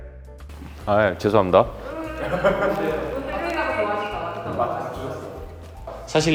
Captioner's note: shouted in joy LOL